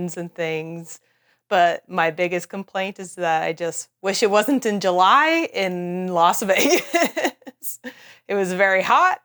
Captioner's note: laughs